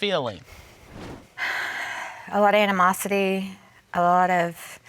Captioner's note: sighs